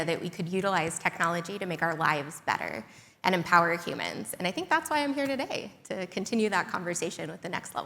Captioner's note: none